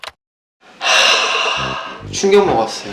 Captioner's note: deep sigh